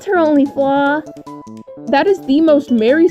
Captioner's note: regular voice